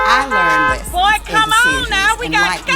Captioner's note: car horn honking